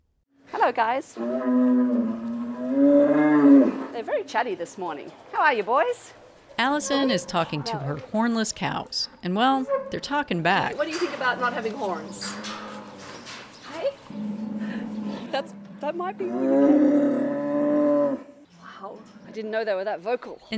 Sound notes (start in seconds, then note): 1.2 moo; 1.2 cows moo; 9.8 barn background noise; 14.1 moo; 19.6 cows moo